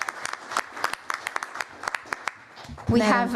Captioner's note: applause